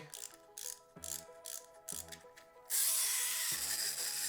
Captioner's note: plastic whirring